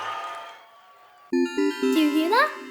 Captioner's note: magical ringing